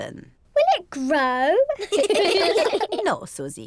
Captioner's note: all laugh